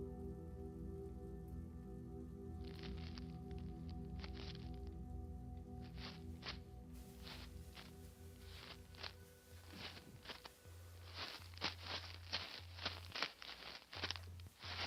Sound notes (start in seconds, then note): 2.7 plastic rustling